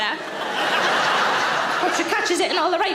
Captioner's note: audience laughing